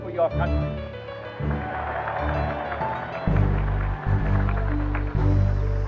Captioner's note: applause